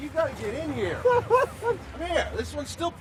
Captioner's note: laughing